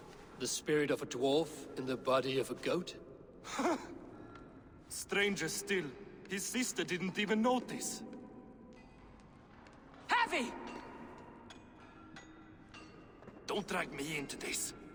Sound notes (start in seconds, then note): 3.4 laugh